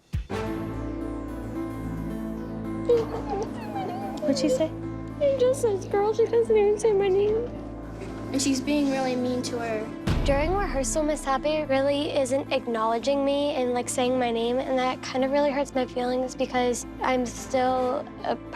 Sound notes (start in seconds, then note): 2.5 speaks tearfully